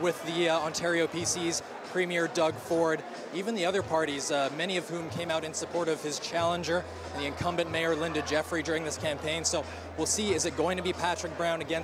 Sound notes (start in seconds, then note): none